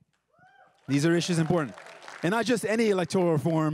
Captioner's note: everyone cheering and applauding